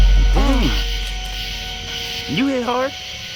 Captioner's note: morgan groans in regret